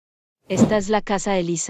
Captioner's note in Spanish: FX - Whoosh - 03